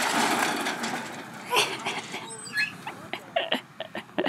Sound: chuckles

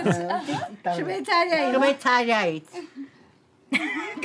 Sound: in Armenian

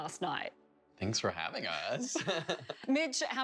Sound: laughter

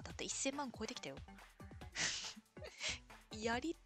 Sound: laughs

